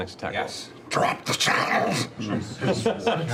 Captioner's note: rasping